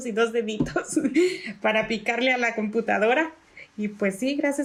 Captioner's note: laugh